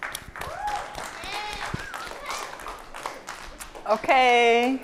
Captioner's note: applause, cheering